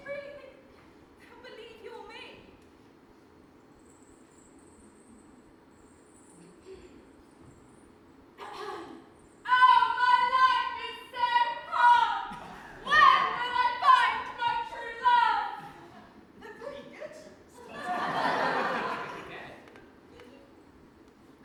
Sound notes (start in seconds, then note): 8.4 clears throat; 17.6 audience laughs